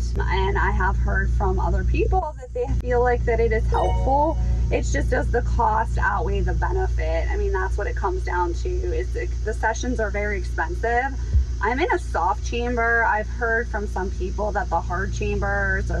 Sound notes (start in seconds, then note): 3.7 chime ringing